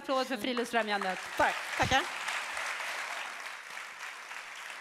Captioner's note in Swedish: applåder